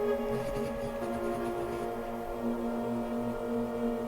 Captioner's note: pen scribbles